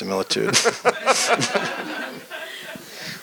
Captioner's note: laughter